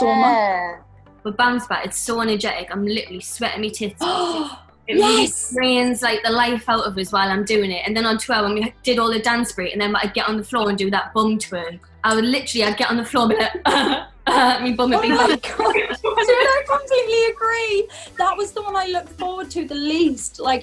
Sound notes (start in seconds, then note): 4.7 gasps; 14.2 grunting